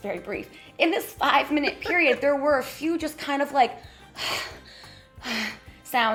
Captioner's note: breathing heavy